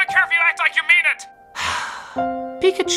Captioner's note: Pikachu sighing